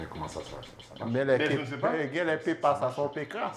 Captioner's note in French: sonnerie d'erreur